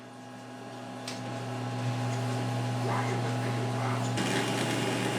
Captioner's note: machine whirring